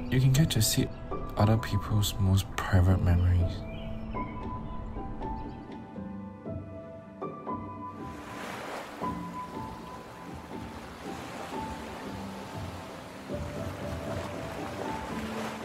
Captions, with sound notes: you can get to see other people's most private memories. [waves on the shore]